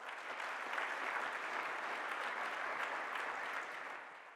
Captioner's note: applause